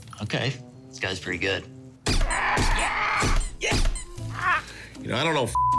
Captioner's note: bird squawking; mallet squeaking; beep